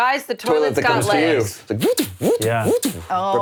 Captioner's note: imitating robot